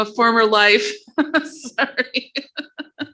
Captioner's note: laughing